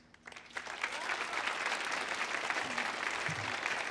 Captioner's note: audience applauds